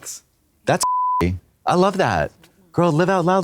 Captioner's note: beep